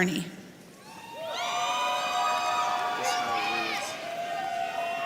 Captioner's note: audience cheering